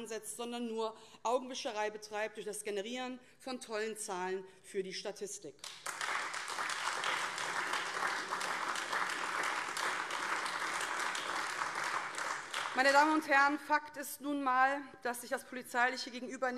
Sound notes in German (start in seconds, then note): 5.6 Beifall AfD